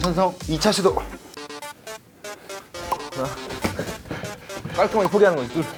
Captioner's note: tennis balls caught